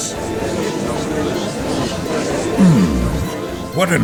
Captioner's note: gallery chattering